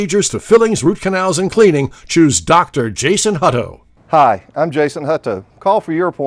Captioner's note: none